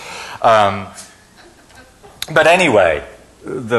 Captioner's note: laughing